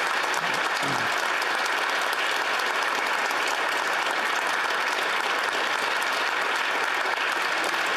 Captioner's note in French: applaudissements